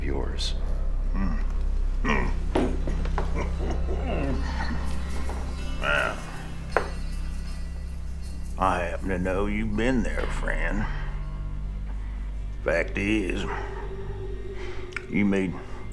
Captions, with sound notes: (chuckles) - Well, I happen to know you've been there, friend. Fact is, you made use of that fancy hog leg of yours in Tucumcari.